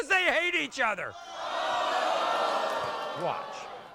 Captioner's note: audience woahs